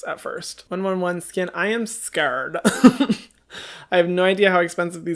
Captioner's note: laughs